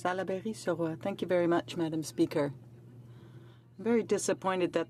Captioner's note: speaking French